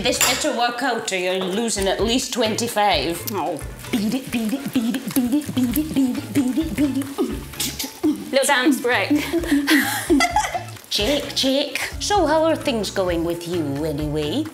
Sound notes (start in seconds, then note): 7.0 McGonnagall beat boxing